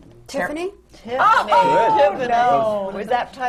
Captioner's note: laughter